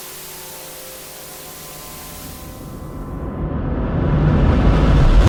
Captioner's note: static